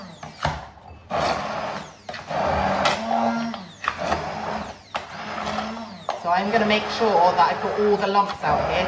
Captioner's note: blender noises